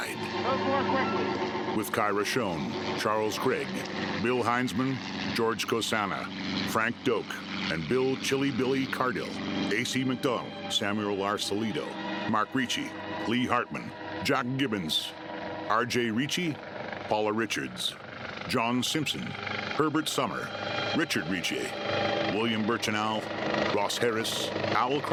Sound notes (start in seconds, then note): 1.7 officers chattering indistinctly; 4.2 helicopter whirring; 10.9 haunting, plaintive music